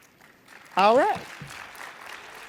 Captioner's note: participants clap